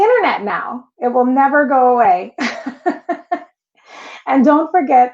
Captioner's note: laughs